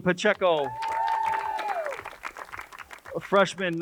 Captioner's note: crowd cheers and applauds